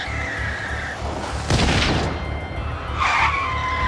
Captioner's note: gunshot